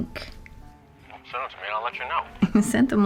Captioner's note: hawk on phone